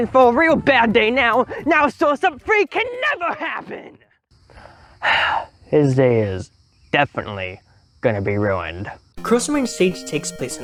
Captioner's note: sighs